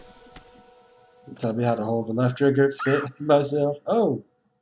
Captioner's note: laughing